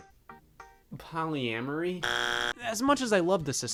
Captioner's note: buzzer buzzing